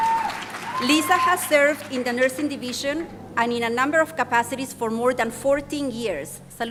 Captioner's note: applause